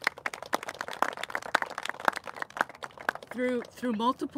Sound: applauses

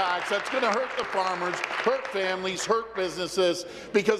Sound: applause

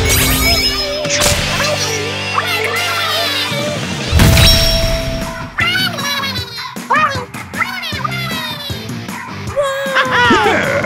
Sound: speaking Inklish

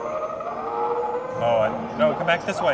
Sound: dinosaur roaring

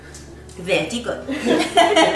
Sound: laughter

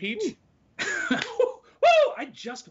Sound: laughs

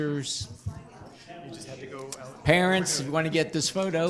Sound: group chatter

